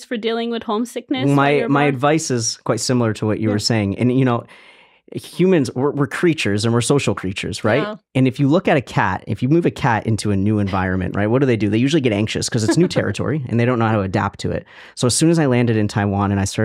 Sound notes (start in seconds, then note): 10.2 chuckling